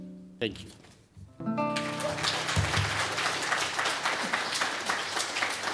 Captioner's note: applause